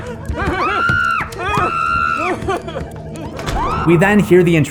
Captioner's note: screaming